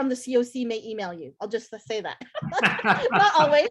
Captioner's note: everyone laughs